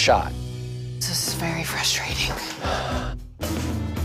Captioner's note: sighs